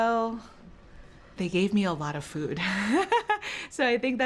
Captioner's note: laughing